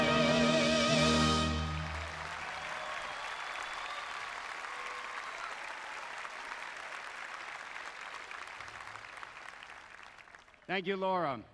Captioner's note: applause